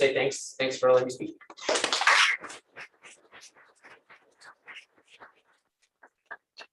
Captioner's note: applause